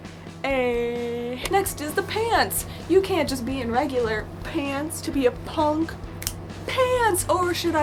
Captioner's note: snaps